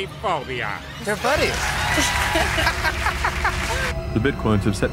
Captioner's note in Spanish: risas y aplausos